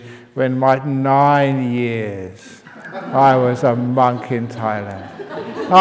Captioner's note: laughs